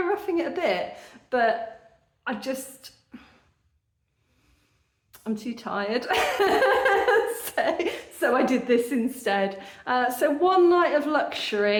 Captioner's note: laughing